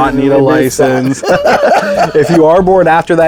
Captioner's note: laughing